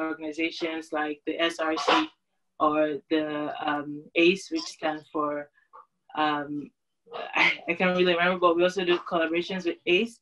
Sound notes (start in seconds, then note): 4.7 laughter